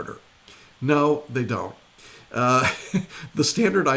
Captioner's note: laughing